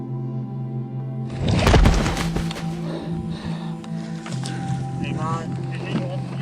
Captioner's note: sound of crashing to ground